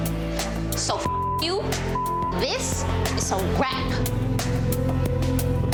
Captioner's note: beep; gentle music